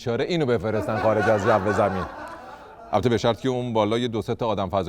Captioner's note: laughter